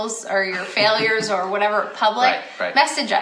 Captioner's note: laughs